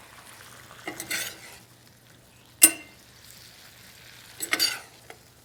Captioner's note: sizzling sounds